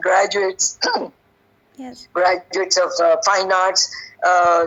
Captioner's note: coughs